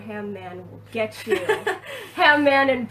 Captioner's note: laughs